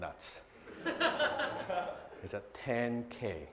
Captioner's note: audience laughing